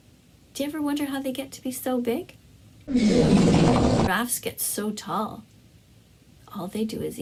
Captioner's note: intense fart sound